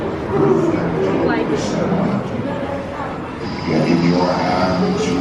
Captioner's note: people chattering